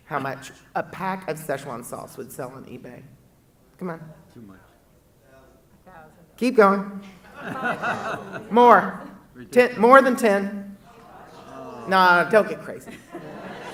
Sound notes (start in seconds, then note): 7.2 audience laughing